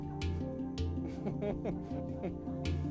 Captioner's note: chuckles